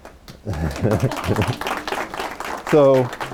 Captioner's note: applause